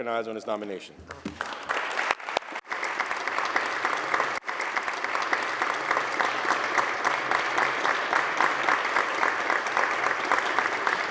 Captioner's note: applause